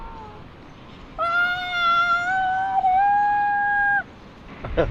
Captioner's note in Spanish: Paciente grita